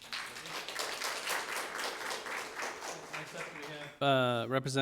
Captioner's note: audience applauds